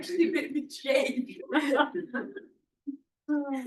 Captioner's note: laughter